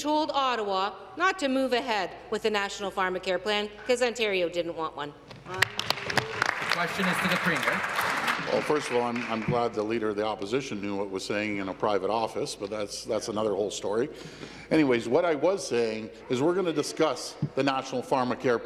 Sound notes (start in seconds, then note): 9.6 applause